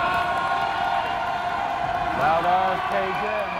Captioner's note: crowd cheers